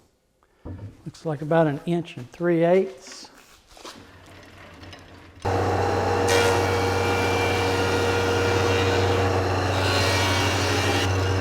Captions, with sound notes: Looks like about an inch and three eighths. (wheel rotating) (planer running)